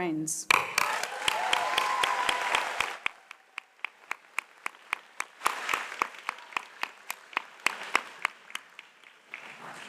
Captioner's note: applause